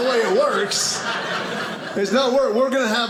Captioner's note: audience laughing